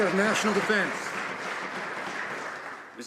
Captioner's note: some Applause